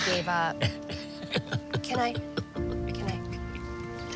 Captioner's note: sobs